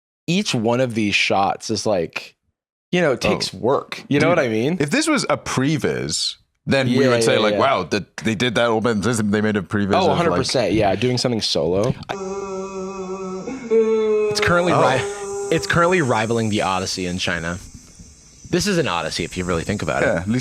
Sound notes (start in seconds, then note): 12.1 sad mooing